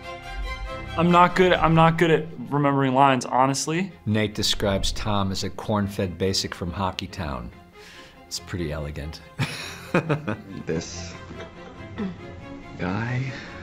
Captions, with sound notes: I'm not good-- I'm not good at remembering lines, honestly. Nate describes Tom as a "corn-fed basic from hockey town." That's pretty elegant. (CHUCKLES) This... guy.